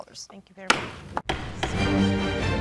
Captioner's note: gavel bangs; dramatic music